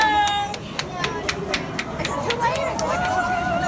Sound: clapping

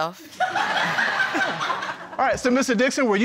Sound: crowd laughing

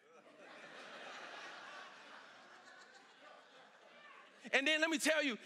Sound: congregation laughing

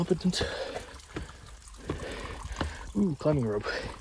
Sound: heavy breathing

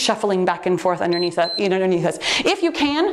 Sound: timer beeps

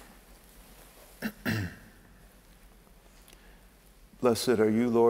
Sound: clearing throat

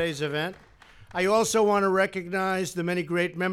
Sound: applause

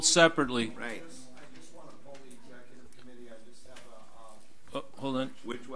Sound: overlapping chattering

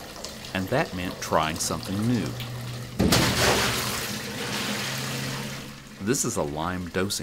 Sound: splash

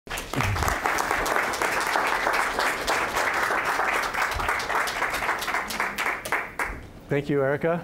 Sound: applause

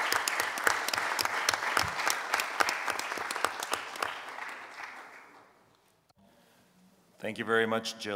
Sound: applause

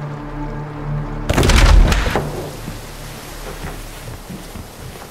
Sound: The door bangs open as Jack breaks through it

